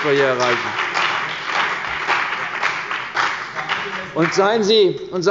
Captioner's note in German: Beifall bei der CDU und dem BÜNDNIS 90/DIE GRÜNEN